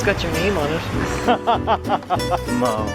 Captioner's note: laughter